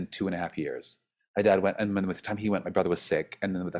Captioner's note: stammers